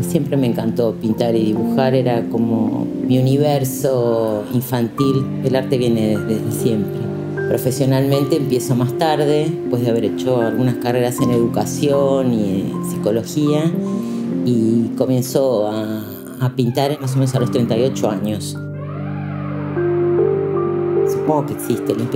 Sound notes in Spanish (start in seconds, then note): 18.6 sonido vibrante